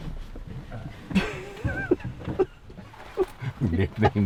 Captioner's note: laughing